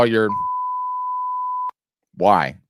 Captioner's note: loud beeping